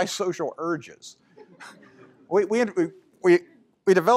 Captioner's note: laughter